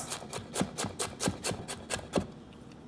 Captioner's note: chopping